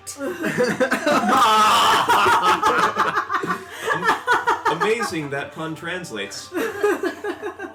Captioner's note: laughter, some of it pained